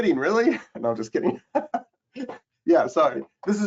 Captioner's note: chuckles